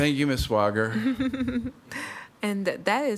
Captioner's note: chuckling